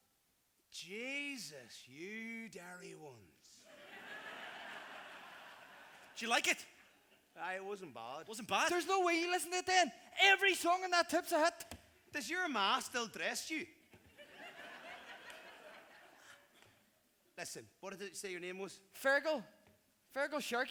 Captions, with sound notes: Jesus, you Derry ones. ( laughter ) Did you like it? Aye it wasn’t bad. Wasn’t bad? There’s no way you listened to it then. Every song on that tape’s a hit. Does your ma still dress you? Listen - what did you say your name was? Feargal. Feargal Sharkey.